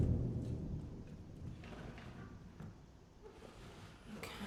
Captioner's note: paper crinkling; heavy objects dragging on floor